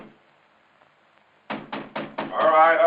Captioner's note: knocking on door